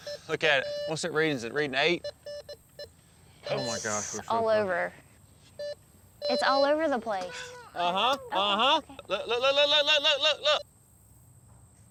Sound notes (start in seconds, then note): 3.4 beeps